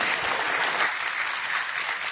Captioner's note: applause